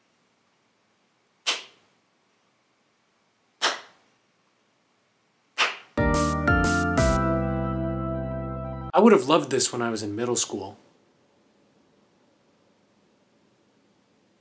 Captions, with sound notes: (claps) (upbeat music plays) I would have loved this when I was in middle school.